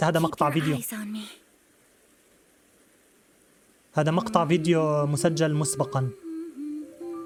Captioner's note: humming; gentle music